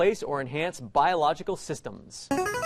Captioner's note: player buzzer